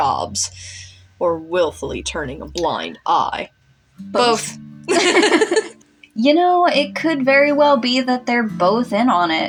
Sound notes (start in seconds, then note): 4.9 laugh